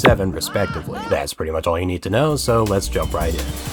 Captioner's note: Tidus laughing in the background